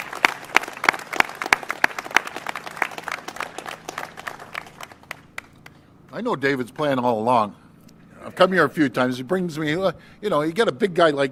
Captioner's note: applause